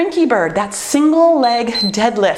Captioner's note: timer beeps